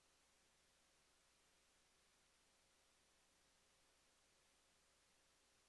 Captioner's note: none